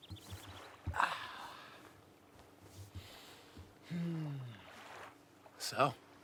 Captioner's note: water lapping against the dock